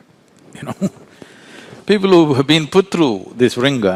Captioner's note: laughs